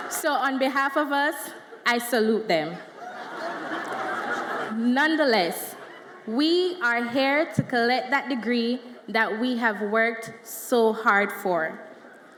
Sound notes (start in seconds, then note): 3.9 audience laughs